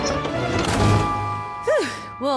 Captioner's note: slam